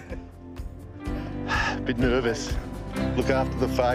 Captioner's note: player chuckles; exhales